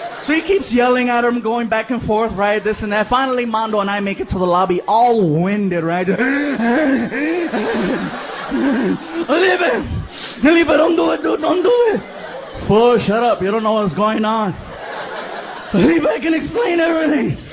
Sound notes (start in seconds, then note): 6.2 Rantaro and Miu trying to catch their breaths; 10.0 breathes